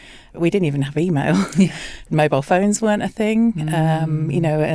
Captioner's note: chuckles